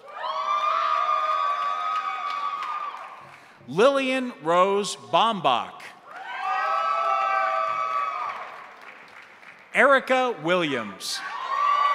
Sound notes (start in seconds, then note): 0.0 crowd cheering; 0.0 crowd applauding; 6.0 crowd cheering; 6.0 crowd applauding